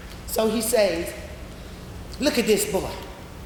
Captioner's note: none